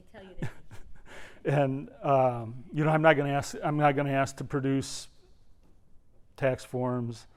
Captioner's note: laugh